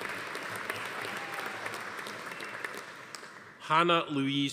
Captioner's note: audience applauding; attendee cheering